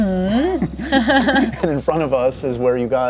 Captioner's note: laughs